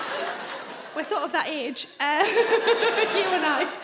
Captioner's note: laughs